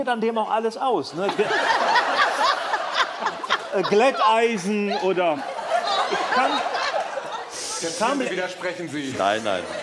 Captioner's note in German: Lachen